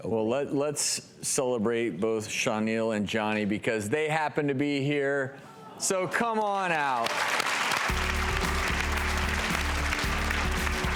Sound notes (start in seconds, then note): 6.4 applause; 7.8 touching music